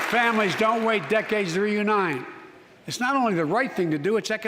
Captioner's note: applause